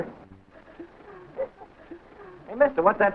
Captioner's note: crowd giggling